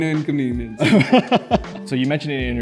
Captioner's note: laughs